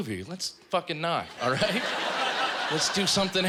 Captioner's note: laughter